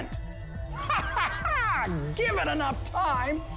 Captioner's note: maniacal laugh